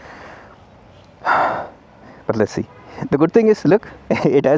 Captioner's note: sighs